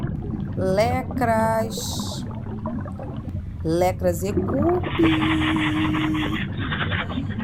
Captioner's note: words and sounds of invented language